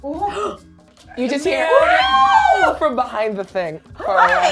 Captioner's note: howls